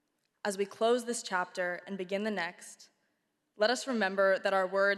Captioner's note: none